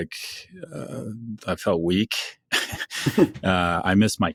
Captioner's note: chuckles